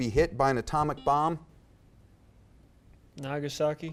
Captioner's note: buzzer beeps